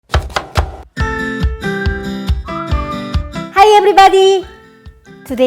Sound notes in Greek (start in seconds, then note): 0.0 τσοπ τσοπ τσοπ; 0.1 ζωηρή μουσική